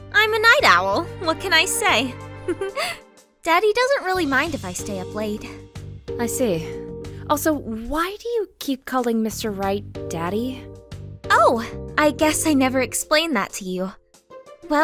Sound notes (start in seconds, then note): 2.4 chuckle